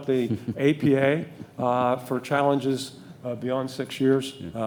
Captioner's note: laughing